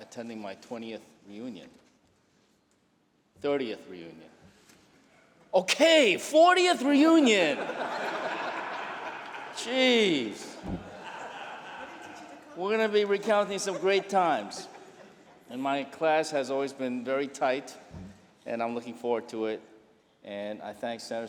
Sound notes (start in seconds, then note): 7.5 laughter